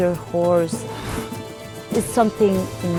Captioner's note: horses huff